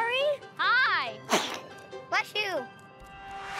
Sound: sneezes

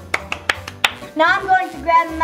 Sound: claps

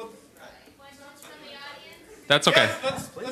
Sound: voiceover

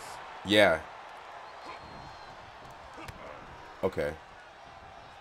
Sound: applause

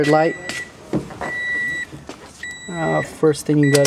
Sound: beeping

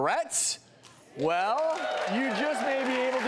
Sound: crowd cheering

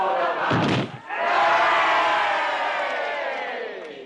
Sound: crowd cheers

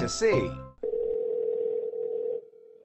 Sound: phone rings

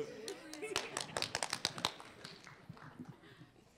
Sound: applause

